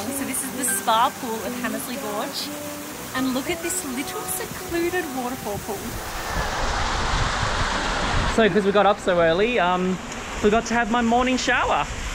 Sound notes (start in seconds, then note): 6.7 water rushing